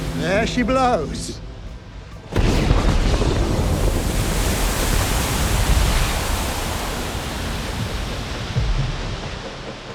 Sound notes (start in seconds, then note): 2.3 bomb booms; 2.8 water splashing